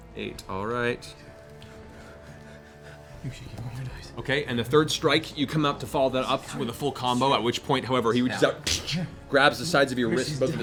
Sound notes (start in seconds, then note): 8.4 clutching noise